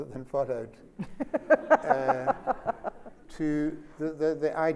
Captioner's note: Sonia laughs